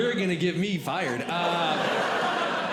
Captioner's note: audience Laughing